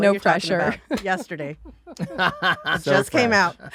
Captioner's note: laughing